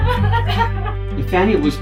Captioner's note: sobs